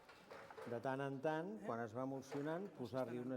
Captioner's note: non-english speech